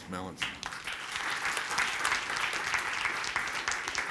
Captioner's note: applause